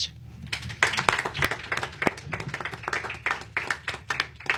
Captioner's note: applause